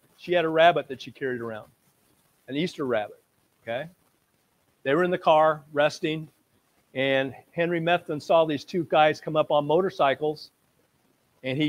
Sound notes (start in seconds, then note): none